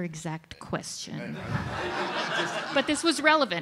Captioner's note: audience laughs